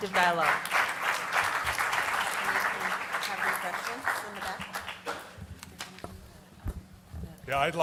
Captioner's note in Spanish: Aplausos